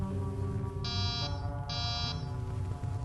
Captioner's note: door buzz twice